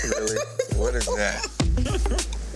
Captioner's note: woman chuckling; woman laughing